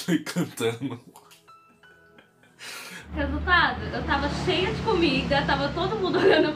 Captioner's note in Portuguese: risada